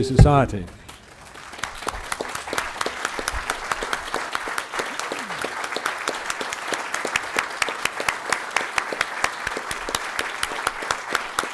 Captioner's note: applause